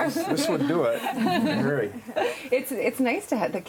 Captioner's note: laughing